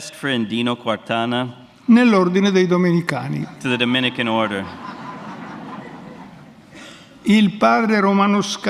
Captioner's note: speaks in Italian; audience Laughter; speaks in Italian